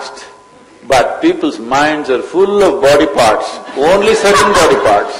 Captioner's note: laughter